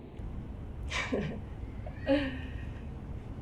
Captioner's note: laughs